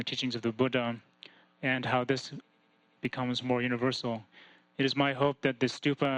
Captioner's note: none